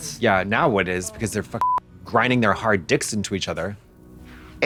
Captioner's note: beep